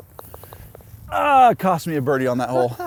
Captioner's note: groans